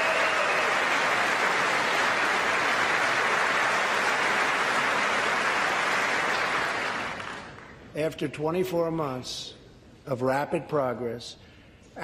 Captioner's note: applause